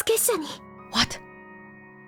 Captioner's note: whispers